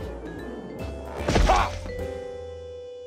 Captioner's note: grunts